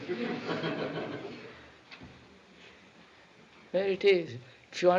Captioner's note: laughter